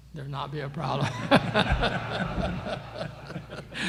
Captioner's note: laughter